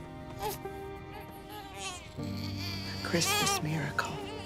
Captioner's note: baby crying